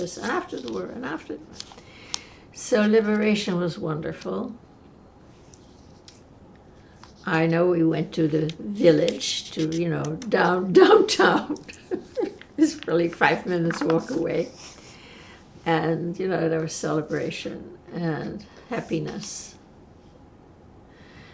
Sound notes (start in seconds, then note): 11.3 laughing